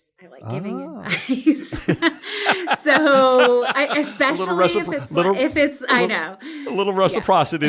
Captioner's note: laugh